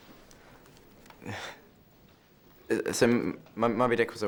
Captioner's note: sighs